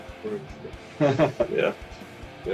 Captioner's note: Смех